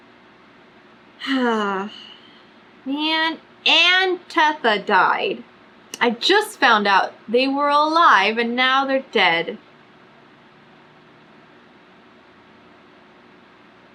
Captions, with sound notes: [SIGHS] MAN AND TETHA DIED I JUST FOUND OUT THEY WERE ALIVE AND NOW THEY'RE DEAD